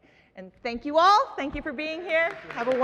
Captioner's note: audience applauds